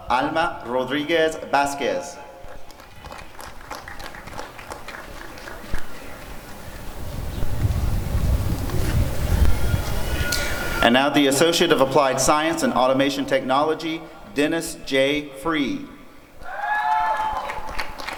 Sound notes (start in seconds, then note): 2.7 applause and cheering; 16.5 applause and cheering